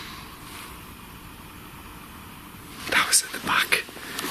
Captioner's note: clattering